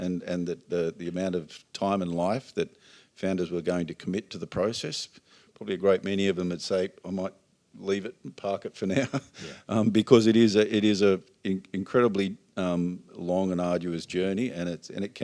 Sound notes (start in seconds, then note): 8.9 laughs